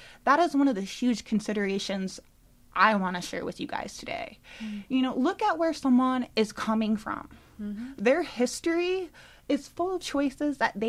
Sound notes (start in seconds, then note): none